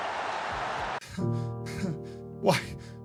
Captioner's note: sad piano plays; whimpers